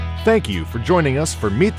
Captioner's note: voiceover